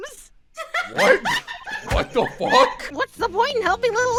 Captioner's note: laughter